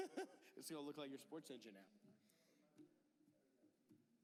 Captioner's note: laughter